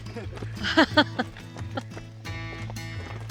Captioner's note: laughs